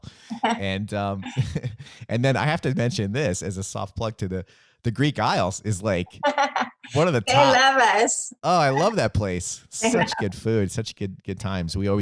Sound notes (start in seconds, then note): 8.5 laughs